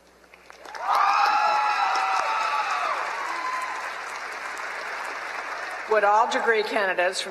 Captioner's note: applause